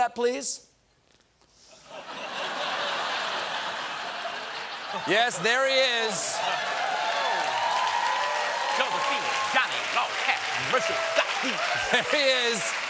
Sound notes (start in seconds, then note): 1.7 laughter; 8.9 cheers and applause